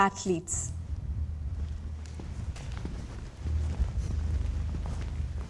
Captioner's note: people walking